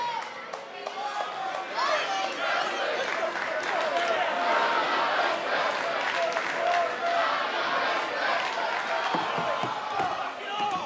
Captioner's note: crowd cheering